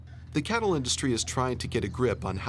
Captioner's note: voiceover